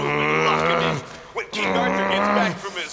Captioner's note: growling